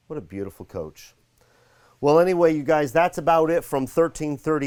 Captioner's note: none